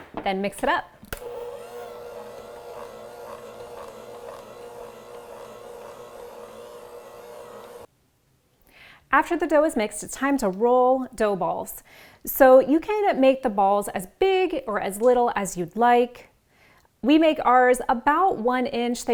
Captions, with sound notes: And mix it up. (blender mixing) After the dough is mixed, it's time to roll dough balls. So you can make the balls as big or as little as you'd like, we make ours about one inch.